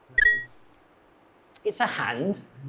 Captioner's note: video game beeps